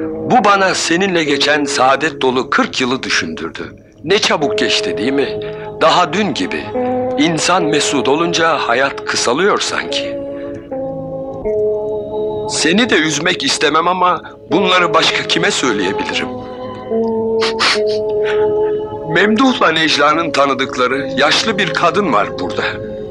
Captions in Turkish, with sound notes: Bu, bana seninle geçen saadet dolu kırk yılı düşündürdü. Ne çabuk geçti, değil mi? Daha dün gibi! İnsan mesut olunca hayat kısalıyor sanki! Seni de üzmek istemem ama bunları başka kime söyleyebilirim? [Ağlamaklı burun çekme] Memduh'la Nejla'nın tanıdıkları yaşlı bir kadın var burada...